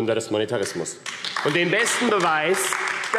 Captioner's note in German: Beifall AfD